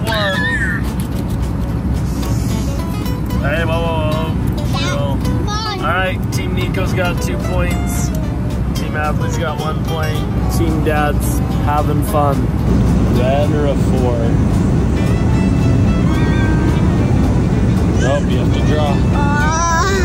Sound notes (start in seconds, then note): 0.9 shouts